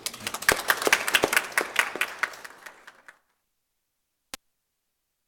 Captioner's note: applause